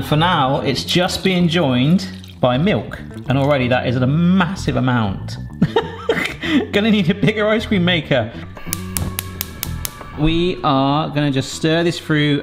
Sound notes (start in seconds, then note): 5.5 laughs; 8.6 stovetop clicking; 8.8 flame whooshes